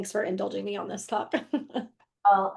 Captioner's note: laughs